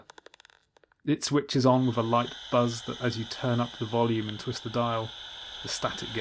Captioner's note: static hiss fades in